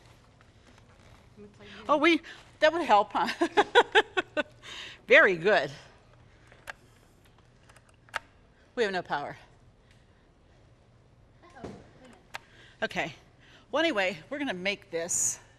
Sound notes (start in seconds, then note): 3.4 laughs; 6.5 mixer clicks